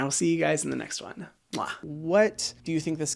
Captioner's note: lips smacking